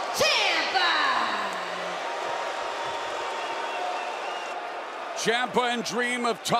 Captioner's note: crowd cheering